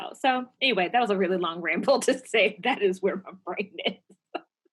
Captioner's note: laugh